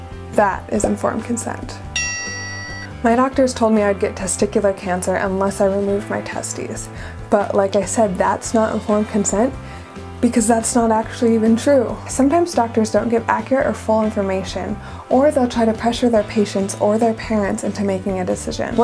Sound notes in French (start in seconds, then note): 1.9 tintement de cloche